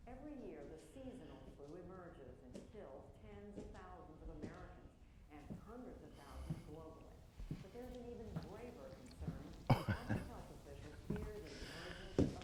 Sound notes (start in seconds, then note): 9.7 client chuckles; 9.9 footsteps clop